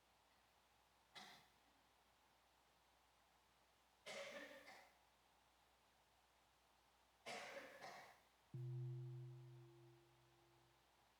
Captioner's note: silence